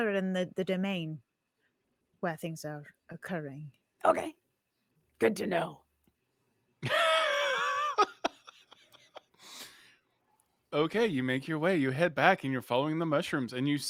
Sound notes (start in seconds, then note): 7.3 laughs